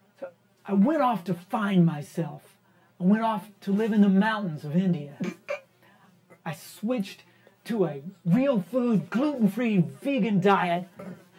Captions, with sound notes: - I went off to find myself. I went off to live in the mountains of India. (El Sapo snickers) I switched to a real food, gluten free, vegan diet.